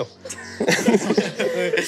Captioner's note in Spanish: Risas